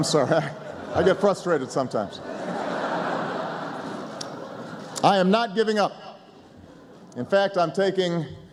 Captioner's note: laughter